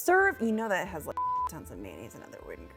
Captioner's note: beep